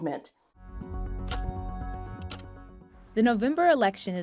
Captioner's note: dramatic music; clock ticking